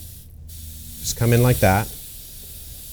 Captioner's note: spray bottle spritzing